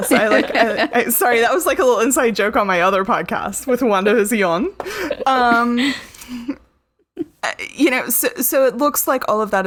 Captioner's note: laughter; French accent